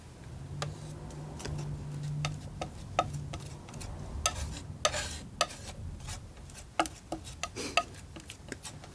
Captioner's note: scratching